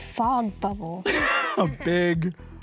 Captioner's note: laughs